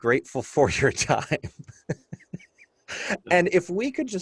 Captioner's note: laughter